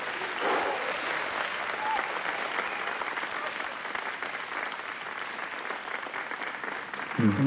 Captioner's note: audience clapping; exhale